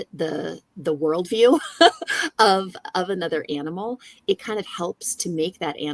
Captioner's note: laughs